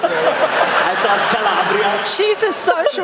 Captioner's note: laughter